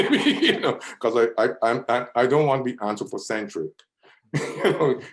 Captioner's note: laughs; laughs